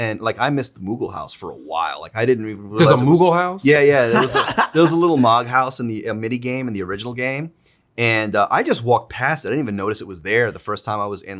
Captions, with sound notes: And like I missed the Moogle House for a while. I didn't even realize it was- - There's a Moogle House? - Yeah, yeah. (laughs) There was a little Mog House in a mini game in the original game and I just walked past it. I didn't even notice it was there the first time I was